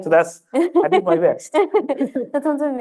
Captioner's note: laughter